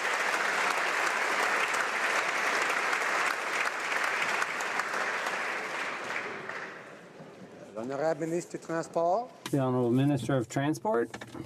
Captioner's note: applause